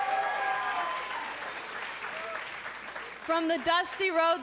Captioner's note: cheers & applause